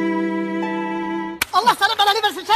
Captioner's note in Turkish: şaplak